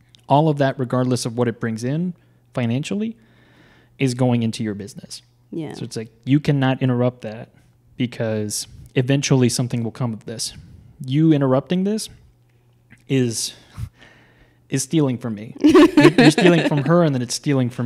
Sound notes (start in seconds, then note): 15.6 laughs; 15.6 chuckles